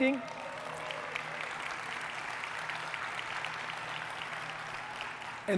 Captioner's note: audience cheering and clapping